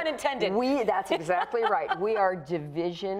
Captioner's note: laughs